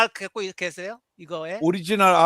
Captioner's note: non-english speech